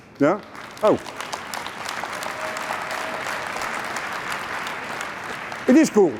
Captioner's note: applause